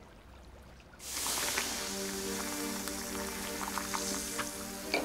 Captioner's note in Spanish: mezcla siseando